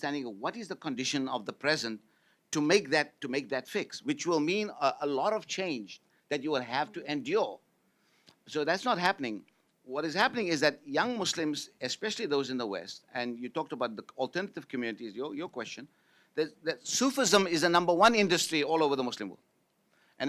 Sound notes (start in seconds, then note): none